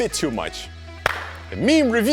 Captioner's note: clap